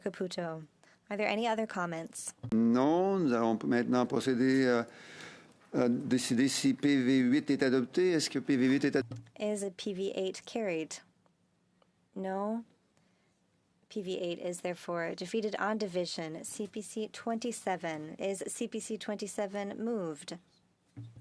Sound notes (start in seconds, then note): 6.2 speaking French